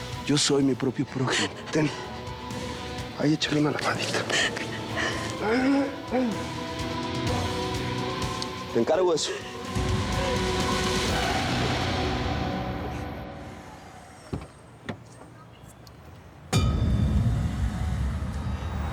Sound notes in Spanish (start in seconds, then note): 4.6 llanto de ella; 14.2 ruido al abrir la puerta